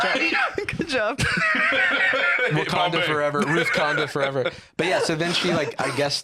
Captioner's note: laughs